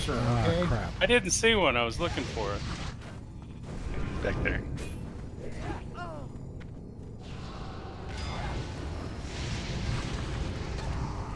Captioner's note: hissing